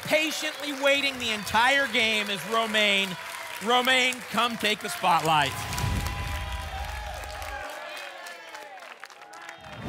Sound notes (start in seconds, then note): 5.6 whoosh; 6.8 applause and cheering